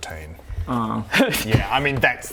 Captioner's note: smug snickering